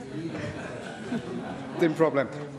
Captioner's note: laughter